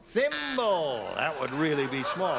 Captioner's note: buzzer